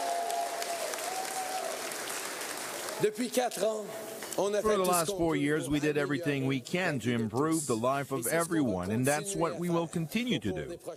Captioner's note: cheering; speaking in French